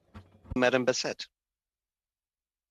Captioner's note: speaking French